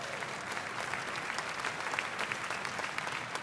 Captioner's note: applause